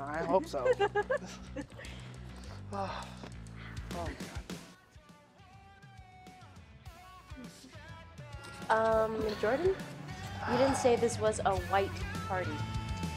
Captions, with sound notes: - I hope so. (giggling) (low music) - Um, Jordan? You didn't say this was a white party.